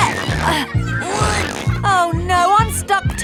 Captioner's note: grunting